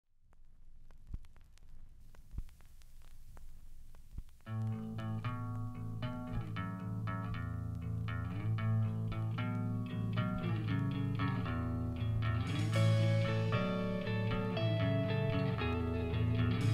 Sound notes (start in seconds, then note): 1.1 record vinyl crackling